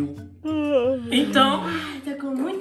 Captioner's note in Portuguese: Som de bocejo